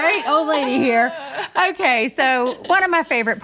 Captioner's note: laughter